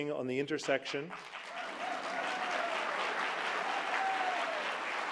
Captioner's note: applause